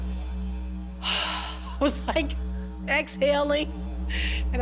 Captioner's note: sighs